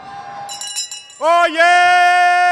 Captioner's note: bell ringing